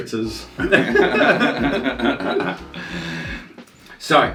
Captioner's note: both laugh